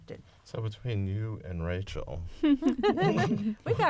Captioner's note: laughter